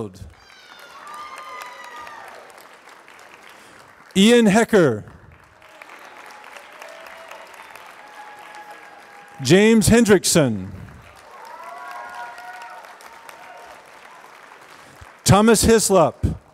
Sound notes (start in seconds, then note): 0.1 applause; 5.1 applause; 11.1 applause; 16.1 applause